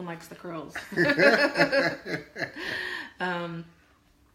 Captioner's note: laughter